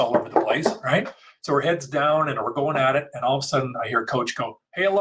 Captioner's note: banging on the table